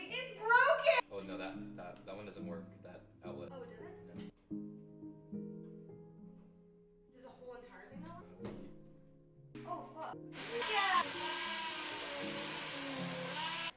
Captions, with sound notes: It's broken. Oh no, that one doesn't work, that outlet. Oh, it doesn't? No. (Soft Music) There's a whole entire thing out? No, I don't think so. Oh fuck. (Blender Whirring) Next up. (Blender Whirring)